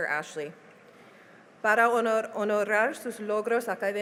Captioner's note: speaking spanish